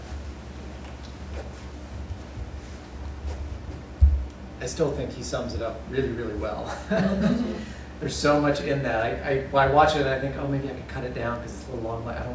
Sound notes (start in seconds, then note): 6.7 laughter